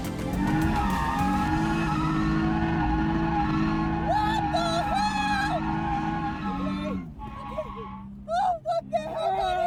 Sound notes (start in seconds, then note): 2.8 tires screeching